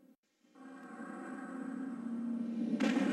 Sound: dramatic sounds

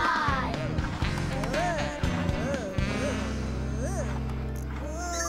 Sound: Click groaning

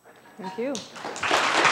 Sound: applause

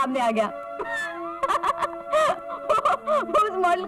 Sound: laughs

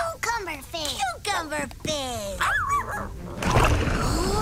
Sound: barking

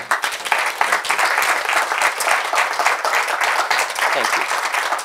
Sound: clapping

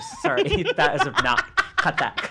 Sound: laughing

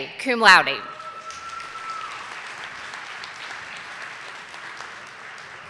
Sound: audience applauding

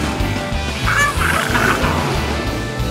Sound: growling

